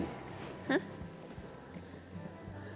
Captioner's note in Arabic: يضحك